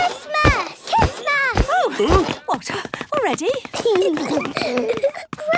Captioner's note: exclamations; giggling